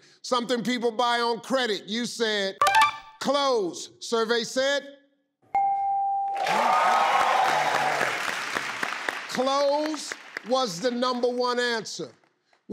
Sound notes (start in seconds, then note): 3.4 ding; 5.5 ding; 6.3 crowd cheering